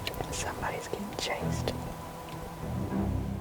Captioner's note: whispering